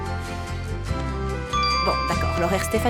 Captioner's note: phone chimes